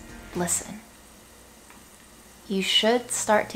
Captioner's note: chilies sizzling